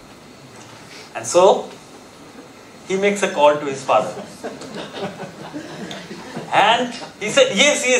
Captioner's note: audience chuckling